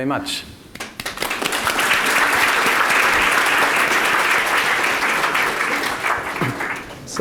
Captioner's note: audience clapping